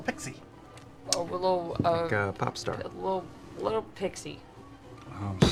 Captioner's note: stutters